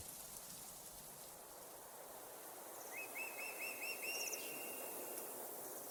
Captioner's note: nature sounds